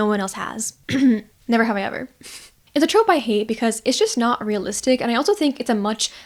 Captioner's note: coughs